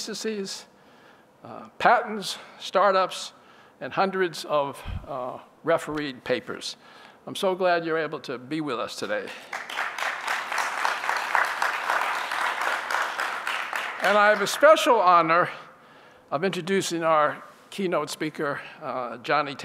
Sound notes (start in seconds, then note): 9.2 applause